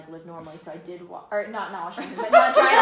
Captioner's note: laughter